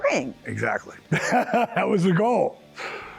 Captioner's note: laughing